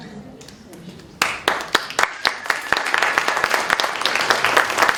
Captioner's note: audience applauds